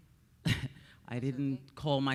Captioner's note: chuckles